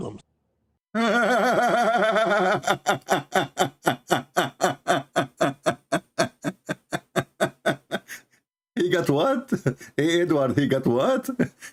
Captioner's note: Ketawa